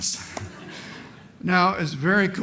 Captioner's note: laughter